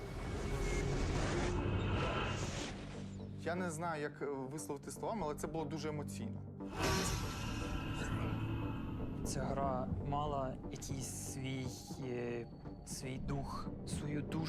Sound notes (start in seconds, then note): 0.0 intense music playing; 6.7 ominous growling